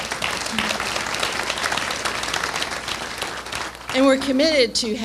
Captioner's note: applause